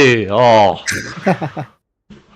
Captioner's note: laugh